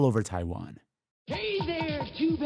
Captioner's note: soundbite of archived recording